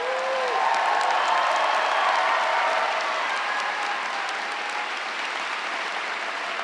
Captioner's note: audience applauds; audience cheers